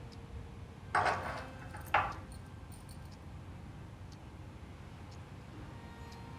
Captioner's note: clock ticking